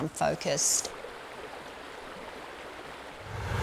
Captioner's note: water flowing; car traffic; plane engine